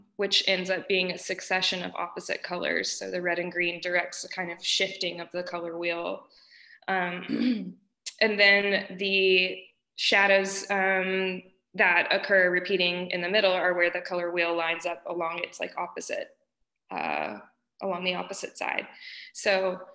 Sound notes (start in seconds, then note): 7.3 clears throat